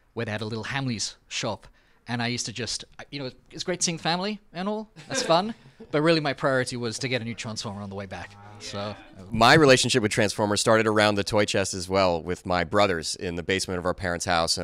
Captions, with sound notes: where they had a little Hamleys shop. And I used to just, you know, it was great seeing family and all. (cast laughs) That's fun, but really my priority was to get a new Transformer on the way back, so. - Wow. - Yeah. - My relationship with "Transformers" started around the toy chest, as well, with my brothers in the basement of our parents' house